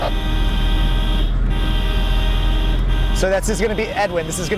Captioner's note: horn beeping